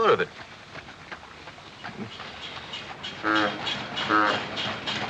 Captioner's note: horn honking